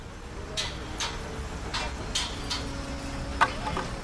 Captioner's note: construction yard noises